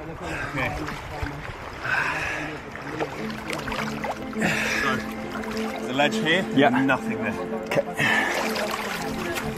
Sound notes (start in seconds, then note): 0.3 locals speaking Portuguese; 1.8 breathing